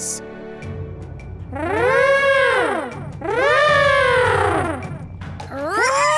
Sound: mastodon horns

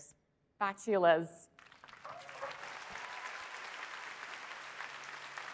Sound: applause

